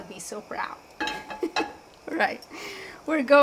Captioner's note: host chuckling